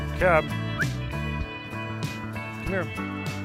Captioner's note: whistles